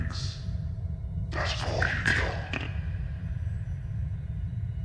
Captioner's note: VOICE whispers